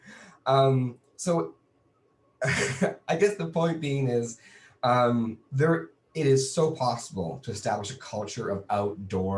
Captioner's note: laughs